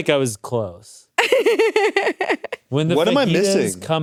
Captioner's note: laughs